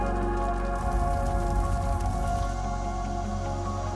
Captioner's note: fire crackles